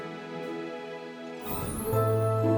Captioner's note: whoosh